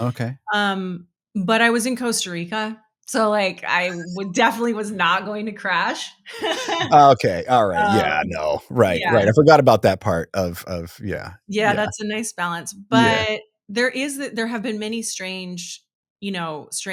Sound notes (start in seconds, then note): 6.2 laughing